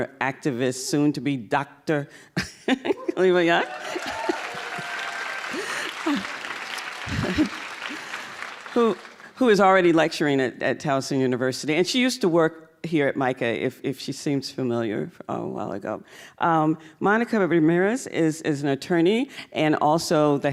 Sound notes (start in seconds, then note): 2.8 laughing; 3.2 cheers and applause